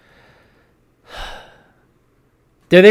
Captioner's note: sigh